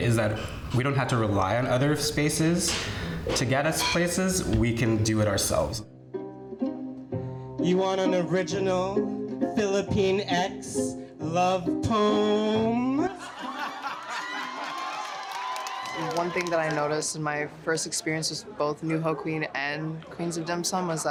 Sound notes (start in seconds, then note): 6.4 light music; 13.0 crowd laughs